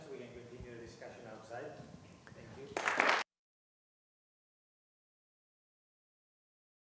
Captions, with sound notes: we can continue discussion outside. Thank you. [APPLAUSE]